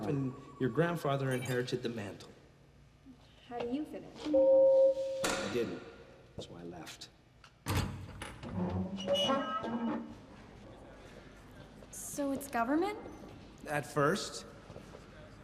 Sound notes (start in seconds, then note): 4.2 alarm beeping; 7.7 door creaking; 10.5 people chattering